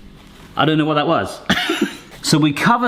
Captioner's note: laughs